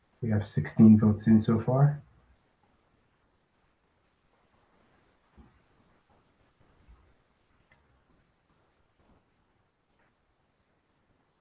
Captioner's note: pause